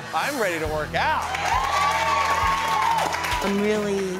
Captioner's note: cheering